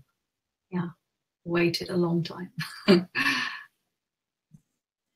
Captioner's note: laughs